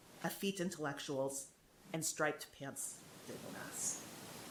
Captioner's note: faintly speaking